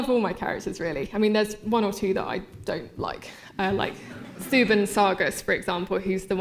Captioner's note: laughter